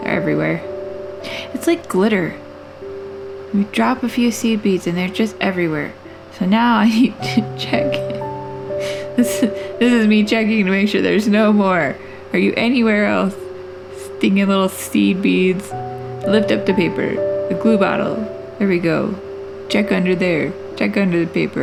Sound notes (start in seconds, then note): 8.8 laugh